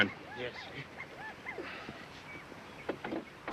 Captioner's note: none